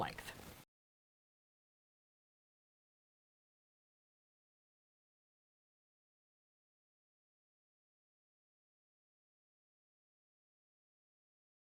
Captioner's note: no Sound Present